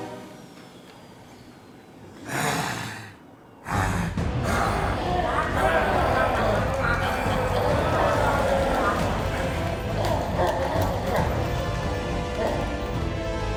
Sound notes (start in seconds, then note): 6.3 soldiers exulting and cheering